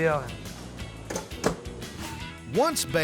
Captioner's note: oven door closes